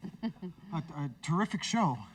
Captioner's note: Sadie chuckles